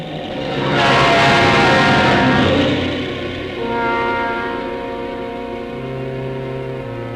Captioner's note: intense music; truck horn honking